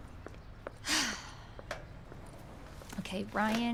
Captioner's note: sighs